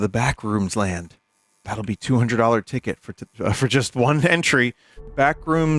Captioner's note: laughs